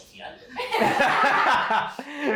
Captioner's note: laughs